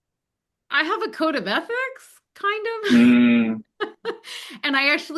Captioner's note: laughs